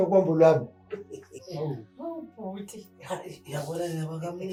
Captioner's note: laughing; laughing